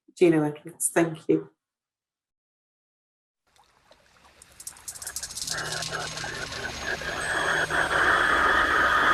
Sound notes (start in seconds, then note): 3.6 water lapping; 7.9 discordant music playing